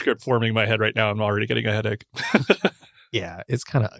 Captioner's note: laughs